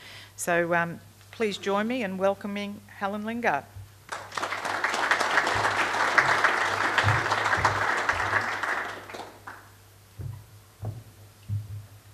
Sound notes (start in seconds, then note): 4.1 audience applause